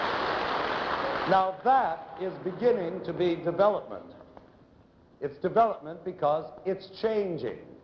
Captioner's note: applause